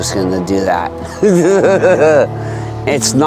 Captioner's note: laughing